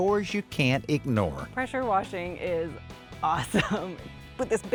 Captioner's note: laughs